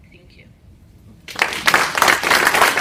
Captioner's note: applause